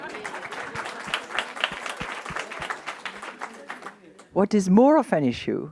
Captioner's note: audience laughing and applauding